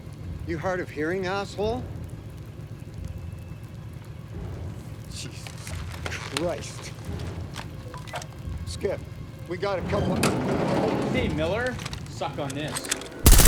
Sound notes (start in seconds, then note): 10.4 door clanging